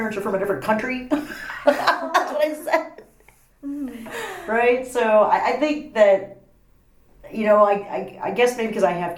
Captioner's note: laughs